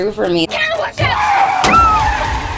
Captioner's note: tires skid; woman screams; body thuds